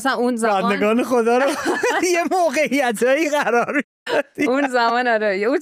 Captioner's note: laughs